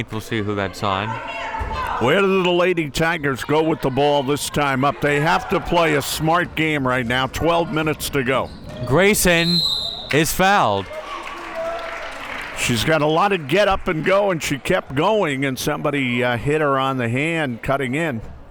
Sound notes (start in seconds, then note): 9.2 whistle tweeting; 10.0 crowd members clapping